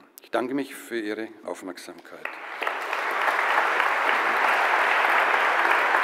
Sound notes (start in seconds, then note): 2.2 applause